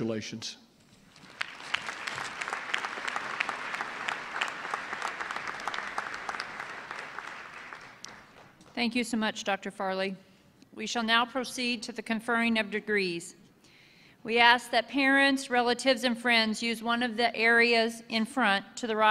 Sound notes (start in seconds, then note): 4.2 applause